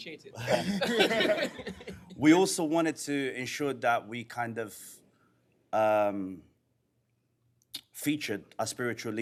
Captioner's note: laughter